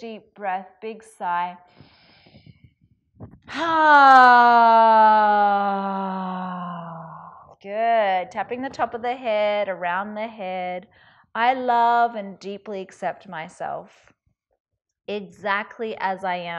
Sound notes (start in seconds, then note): 3.9 sighs